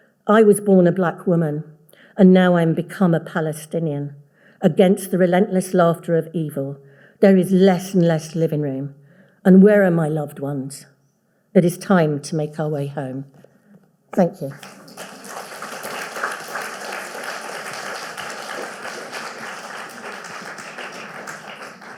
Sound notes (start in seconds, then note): 14.4 audience applauding